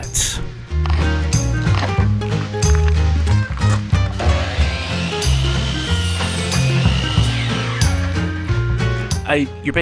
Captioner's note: saw noises